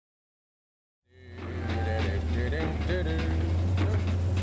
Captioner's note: humming